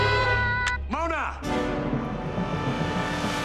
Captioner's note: phone clicks off